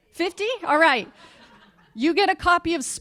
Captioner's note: laughter